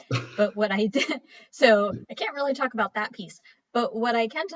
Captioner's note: chuckles